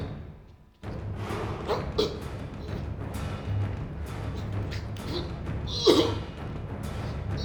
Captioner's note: tense orchestral music; David choking